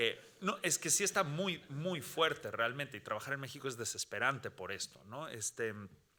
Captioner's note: speaking Spanish continues